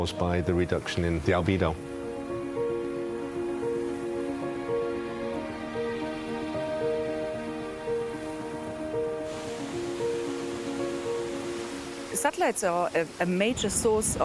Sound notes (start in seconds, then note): 9.8 water splashes